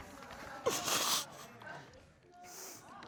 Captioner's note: sighs; sobs